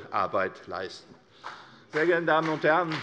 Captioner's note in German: Beifall CDU und BÜNDNIS 90/DIE GRÜNEN